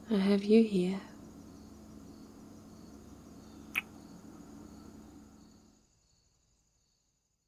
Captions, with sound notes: I have you here... *kiss*